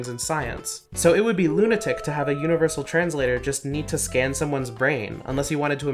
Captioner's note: wolf sound effect